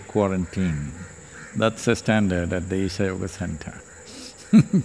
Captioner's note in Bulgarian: смее се